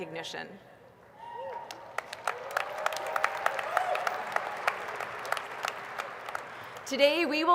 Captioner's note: applause